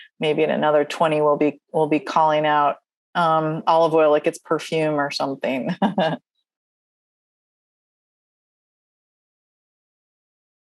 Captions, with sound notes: Maybe in another 20, we'll be... We'll be calling out... olive oil like it's perfume or something. [chuckles]